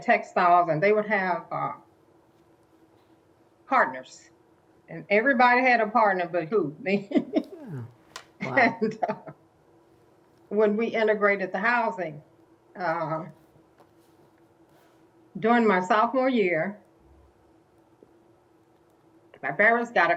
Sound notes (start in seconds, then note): 8.4 laughter